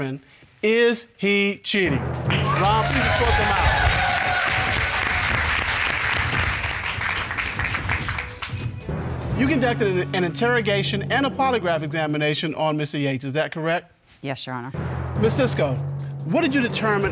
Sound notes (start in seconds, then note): 2.3 applause